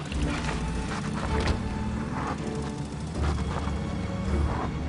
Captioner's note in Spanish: Ruido del motor del auto